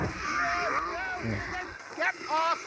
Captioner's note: screams in zombie colossus and fear